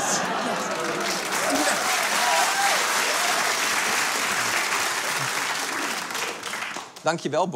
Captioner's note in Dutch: Applaus